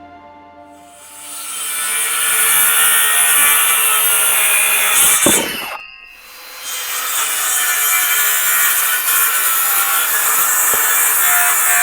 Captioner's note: sawing